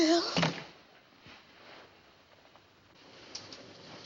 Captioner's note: door Closes